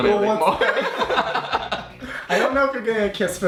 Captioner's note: laughing